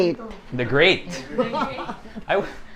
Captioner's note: laughs